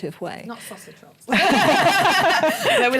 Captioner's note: laughter